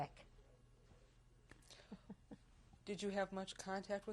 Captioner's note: laughs